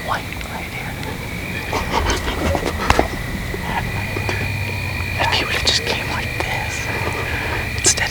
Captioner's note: laughing / indistinct whispering